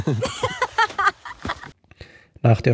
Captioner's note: laughter